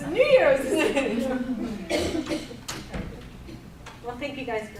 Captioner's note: all murmuring